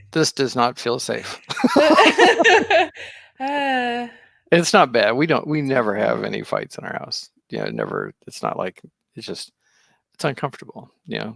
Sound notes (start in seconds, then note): 1.2 laughing